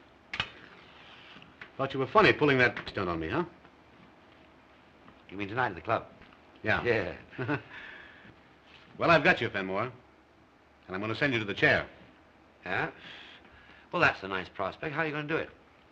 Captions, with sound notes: Thought you were funny' pulling that stunt on me, huh? You mean tonight at the club? - Yeah. - Yeah. [laughs] Well, I've got you, Fenmore. I'm going to send you to the chair. Yeah? Well, that's a nice prospect. How are you going to do it?